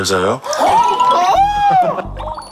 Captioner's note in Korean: 자지러짐